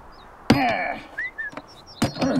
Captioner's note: Ransom whistles